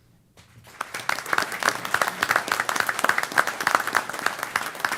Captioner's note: applause